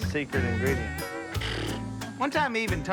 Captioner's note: scoffs